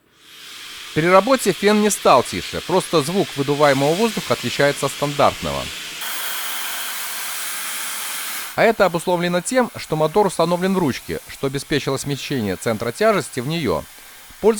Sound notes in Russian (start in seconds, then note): 6.3 шум воздушного потока